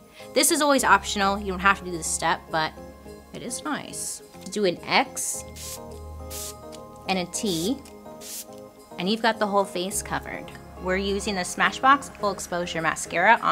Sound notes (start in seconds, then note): 5.5 spraying; 8.2 spraying